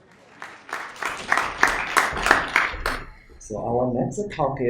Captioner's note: audience applauding